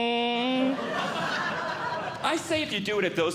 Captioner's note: audience Laughing